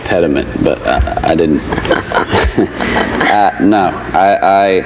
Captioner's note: laughs